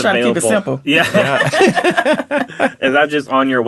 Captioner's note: all laughing